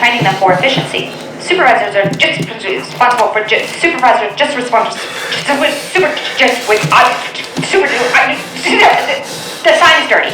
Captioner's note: voiceover spazzes out